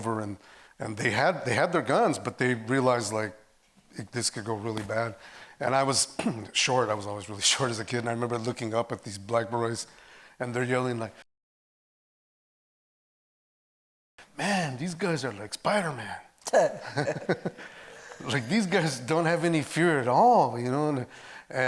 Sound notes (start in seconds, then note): 11.3 audio cuts out; 16.8 laughing